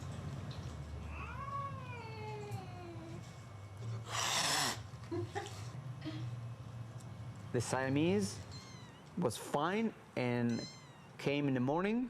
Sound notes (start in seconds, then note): 1.0 cat meows; 4.0 cat hisses; 5.0 laugh